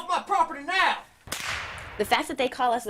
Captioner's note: gun bangs